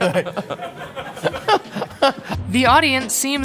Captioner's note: awkward laughter